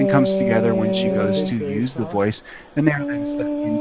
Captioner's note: lady humming